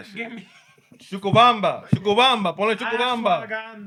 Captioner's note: speaking Spanish